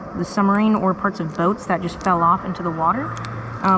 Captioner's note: none